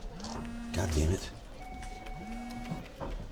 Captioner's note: phone buzzes